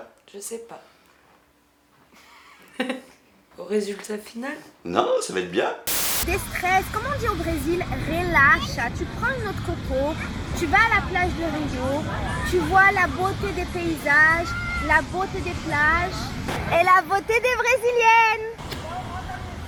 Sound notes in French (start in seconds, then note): 2.2 mini rire